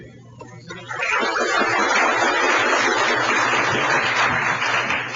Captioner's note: audience applauding